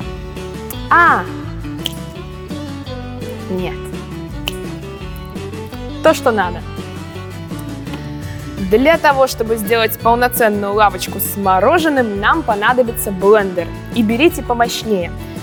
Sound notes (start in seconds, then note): 1.6 snapping fingers; 4.2 snapping fingers once more